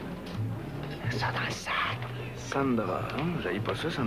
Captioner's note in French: À voix basse